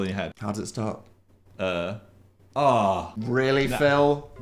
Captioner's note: stutters